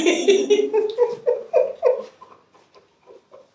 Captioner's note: laughs